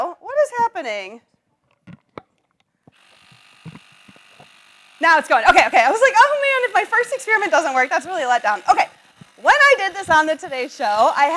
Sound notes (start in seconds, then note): 3.1 bike pump whirs